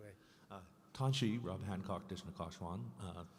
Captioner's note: voiceover; speaking in a foreign language